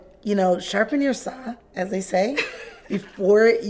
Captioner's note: laughs